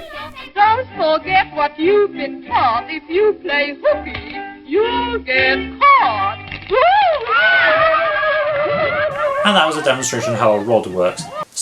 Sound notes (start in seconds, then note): 6.7 kids laugh; 6.8 yelps